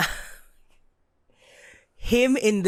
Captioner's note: laughs